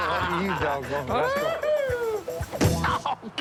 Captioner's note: Willie whoops